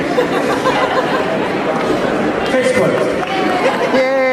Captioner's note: crowd Laughs